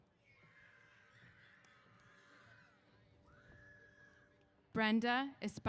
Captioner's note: cheers